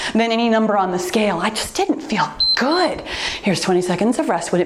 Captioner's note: timer beeps